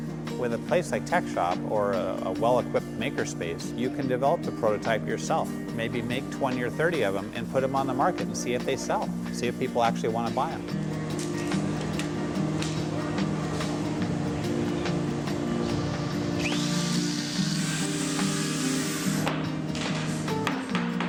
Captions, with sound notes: With a place like Techshop, or a well-equipped maker space, you can develop the prototype yourself. Maybe make 20 or 30 of them, and put them on the market and see if they sell. See if people actually want to buy them. [Screwdriver whirling]